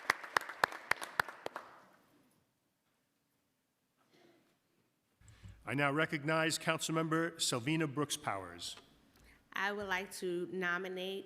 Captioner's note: applause